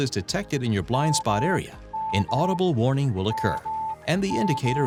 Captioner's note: system alert beeps